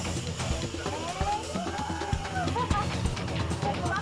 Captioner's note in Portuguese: grita